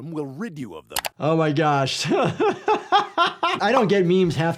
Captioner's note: laughing